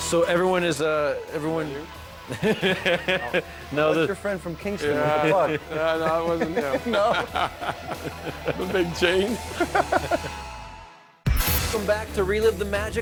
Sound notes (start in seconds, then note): 5.2 laughter